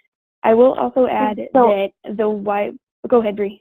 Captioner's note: stuttering